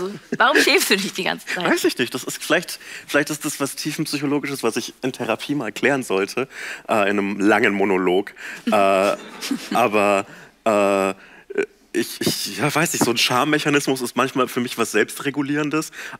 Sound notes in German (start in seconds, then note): 8.7 Lachen